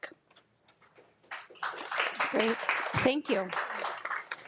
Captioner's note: attendees applauding